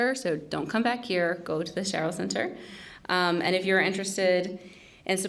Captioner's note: none